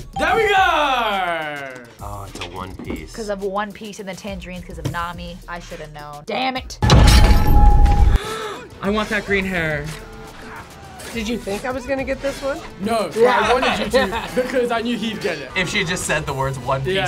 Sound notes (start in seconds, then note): 0.1 bell rings; 6.8 tense music; 8.2 gasps